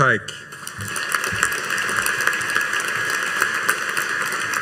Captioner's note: audience applauding